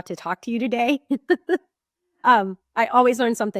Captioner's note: chuckling